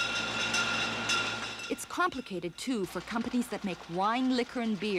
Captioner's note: bottles clanging